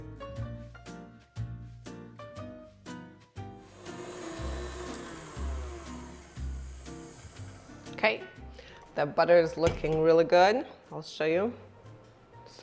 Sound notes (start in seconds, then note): 0.1 lively music; 3.6 mixer growling